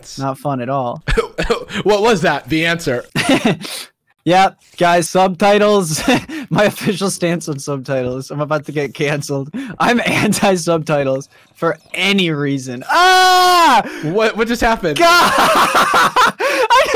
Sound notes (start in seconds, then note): 12.8 screams; 15.0 laughs